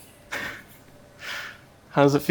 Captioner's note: laughs